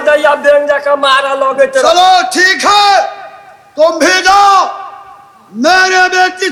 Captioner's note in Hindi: चीखने की आवाज़